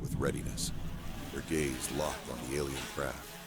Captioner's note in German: Drohnen summen